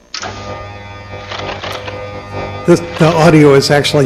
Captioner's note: mechanical buzzing